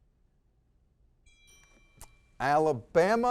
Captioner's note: bell ringing